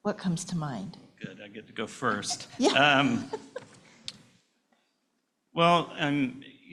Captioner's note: laughter